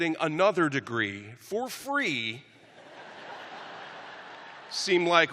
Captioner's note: laughter; cheers and applause